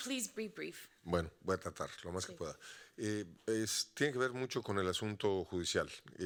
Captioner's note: audience member speaking Spanish